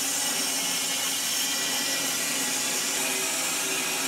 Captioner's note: saw whirring